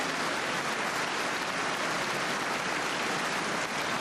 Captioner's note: cheers and applause